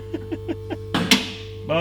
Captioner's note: laughs; car lifter clicks